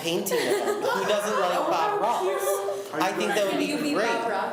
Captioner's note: laughs